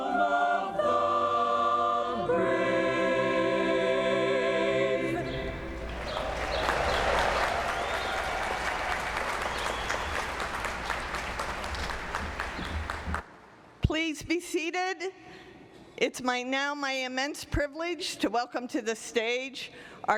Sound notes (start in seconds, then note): 5.2 applause